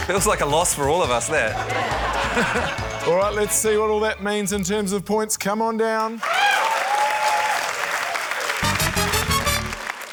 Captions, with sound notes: - That looks like a loss for all of us, that. - All right, let's see what all that means in terms of points. Come on down. (CHEERING, APPLAUSE)